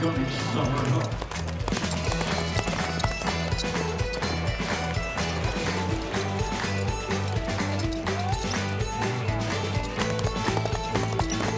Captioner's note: fast hoofbeats